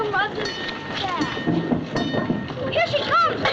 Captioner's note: streetcar bell ringing